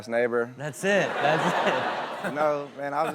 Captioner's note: audience laughs